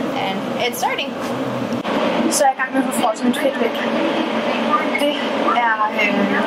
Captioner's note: speaking in Danish